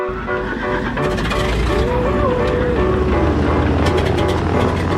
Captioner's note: helicopter blades whir